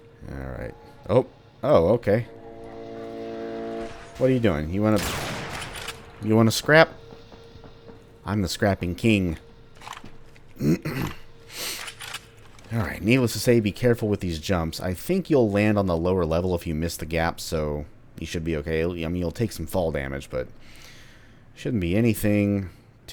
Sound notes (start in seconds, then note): 3.6 bam; 10.6 clears throat